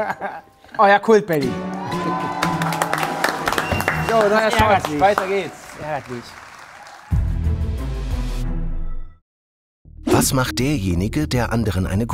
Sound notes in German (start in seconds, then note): 1.6 Jubel, Applaus